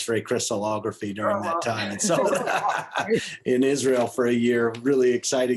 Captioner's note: laughter